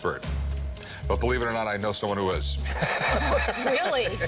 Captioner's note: laughs